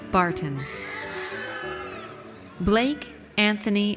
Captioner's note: audience cheers